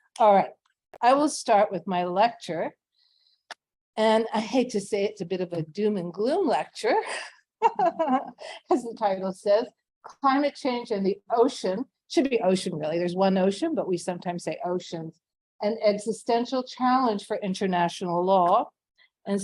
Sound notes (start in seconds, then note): 7.6 laughs